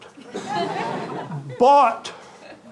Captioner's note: audience laughing